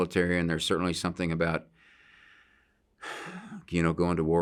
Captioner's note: sighs